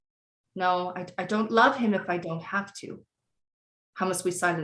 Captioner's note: none